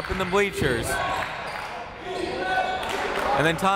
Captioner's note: crowd